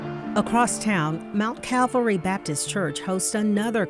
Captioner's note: voiceover